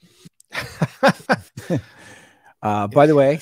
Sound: laughs

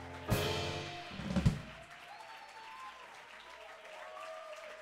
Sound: applause

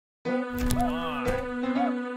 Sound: door Opens

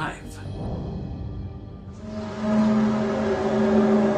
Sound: eerie buzzing noise

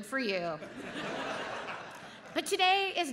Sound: audience laughs

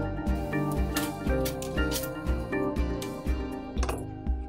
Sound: background music; metal noises

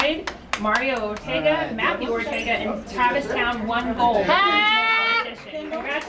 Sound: applause

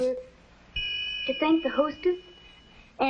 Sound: ding!

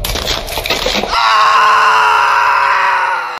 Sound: intense scout scream

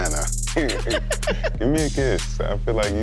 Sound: both laughing

